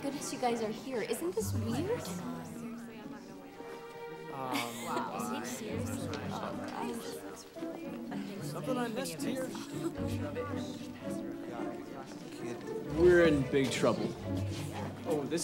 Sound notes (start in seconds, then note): 5.8 curious orchestral music; 5.8 students murmuring; 10.3 students murmuring